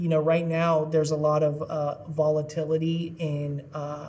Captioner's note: none